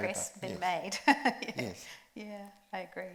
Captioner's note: laughs